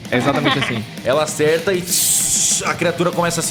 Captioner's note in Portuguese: Shhhh